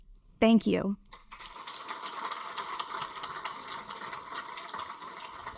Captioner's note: audience applaud